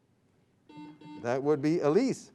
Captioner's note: buzzing sound